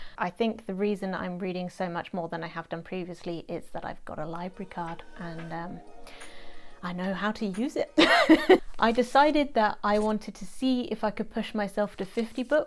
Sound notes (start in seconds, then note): 8.0 laughs